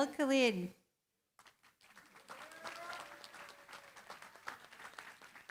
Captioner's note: applause